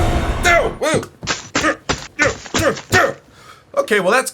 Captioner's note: smashing phone